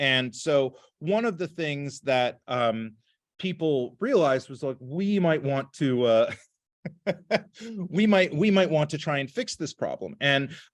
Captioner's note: laughter